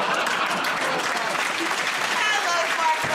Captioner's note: laughter; applause